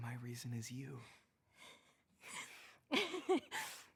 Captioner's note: laughing